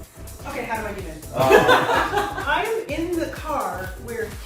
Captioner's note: laughs